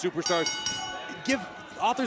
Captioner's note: bell ringing